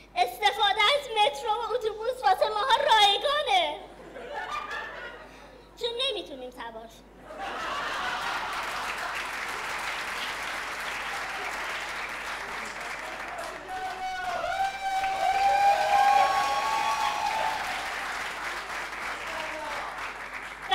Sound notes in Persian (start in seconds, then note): 4.0 خنده; 7.2 خنده